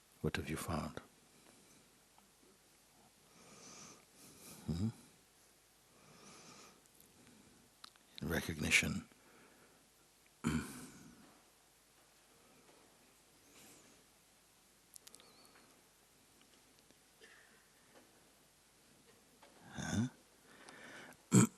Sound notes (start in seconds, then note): 13.6 silence